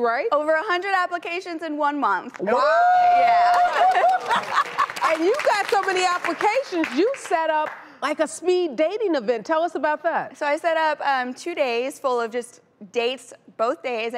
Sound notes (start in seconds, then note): 2.5 cheering; 3.4 clapping